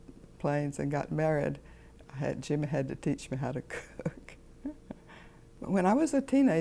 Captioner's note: laughs lightly